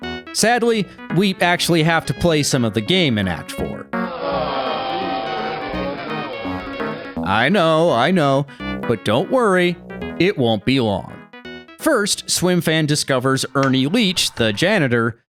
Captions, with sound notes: Sadly, we actually have to play some of the game in Act 4. [Diasappointed groans] I know, I know, but don't worry, it won't be long. First, Swimfan discovers Ernie Leach, the janitor,